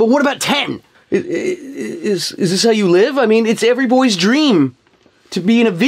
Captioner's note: stammering